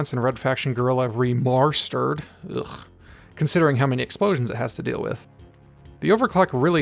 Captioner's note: ugh